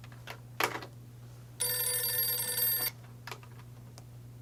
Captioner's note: phone rings